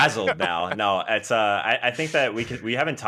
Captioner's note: everyone laughs